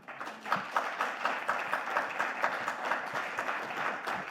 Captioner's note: audience clapping